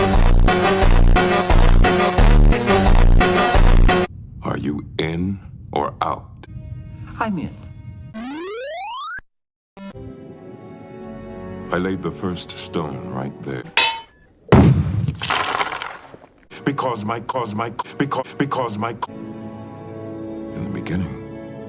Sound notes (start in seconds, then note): 8.1 mario victory noises; 15.0 rock pick and crumble noise